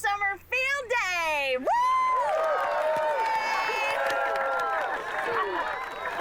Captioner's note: cheering